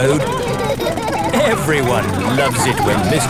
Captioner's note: laughing